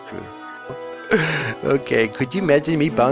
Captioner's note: laughs